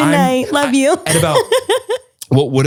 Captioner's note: laughing